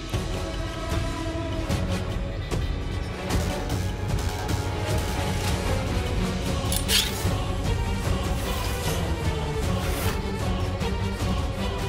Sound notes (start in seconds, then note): 0.1 tense music; 6.6 scraping